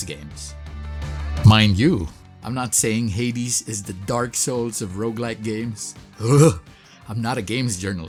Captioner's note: shudders